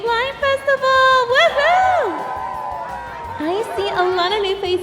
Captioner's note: audience cheers